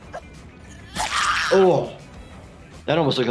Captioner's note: blade squelches